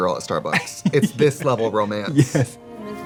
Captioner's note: Katya laughs